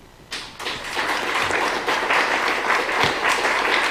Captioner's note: applause